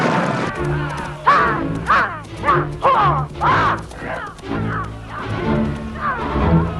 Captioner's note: dramatic music; Hundra yelling at horse